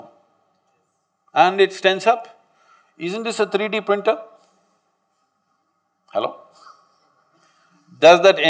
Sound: laughs

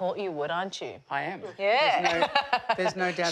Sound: laughs

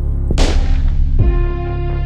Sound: gun shot; ambient music

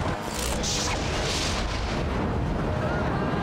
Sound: ethereal woosh

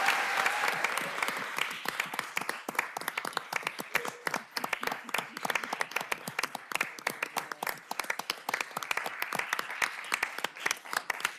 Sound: applause

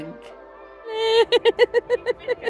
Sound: laughing

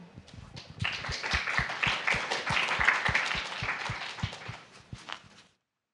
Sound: applause

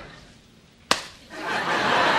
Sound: hand slaps; audience laughs

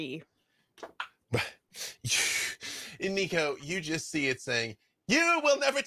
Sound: laughs

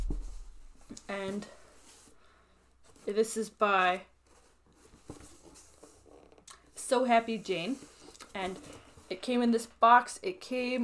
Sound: box shuffling sounds

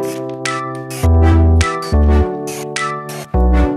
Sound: drill whirs

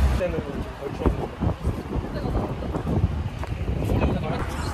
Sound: A sharp wind blows

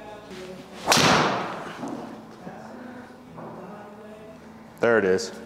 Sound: golf club striking ball

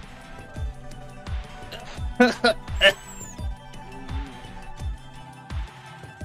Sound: terminal coughing

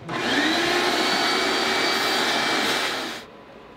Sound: vacuum whirs

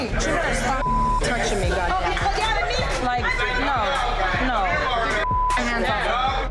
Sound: beep

